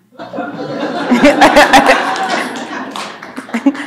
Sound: audience laughing

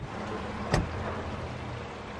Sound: door closing

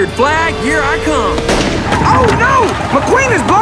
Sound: tire blows

